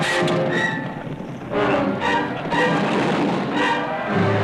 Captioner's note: smacking